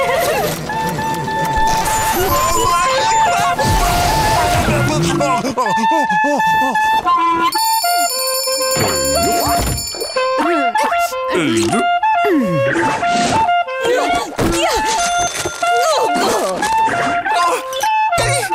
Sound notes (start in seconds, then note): 0.6 playing off-key; 5.8 playing off-key; 7.5 ringing; 9.6 grunting; 9.6 playing off-key; 11.2 grunting; 12.5 playing off-key